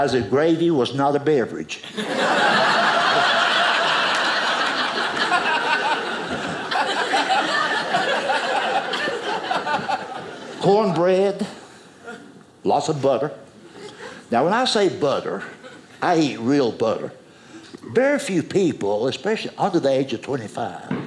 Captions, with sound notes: that gravy was not a beverage. (audience laughing) Corn bread. Lots of butter. Now, when I say butter, I eat real butter. Very few people, especially under the age of 25,